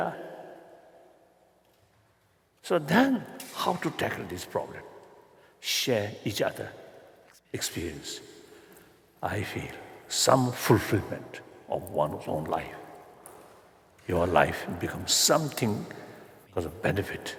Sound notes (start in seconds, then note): none